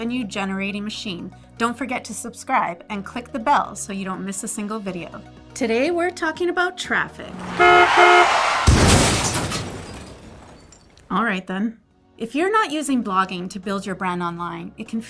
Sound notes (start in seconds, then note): 7.1 car crash; 7.2 honking horn